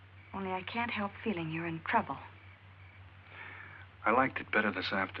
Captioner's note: none